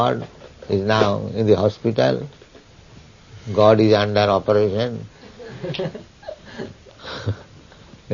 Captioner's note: Risas